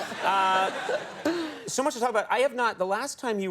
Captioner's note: audience laughing